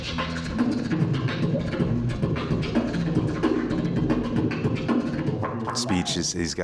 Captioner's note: beat boxing